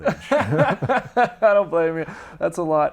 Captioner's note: laughing